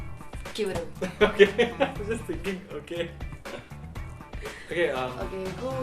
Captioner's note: laughing